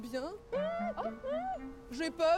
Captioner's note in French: exclamations de surprise